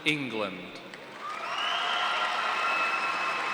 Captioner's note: cheers and applause